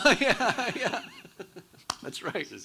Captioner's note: both laughing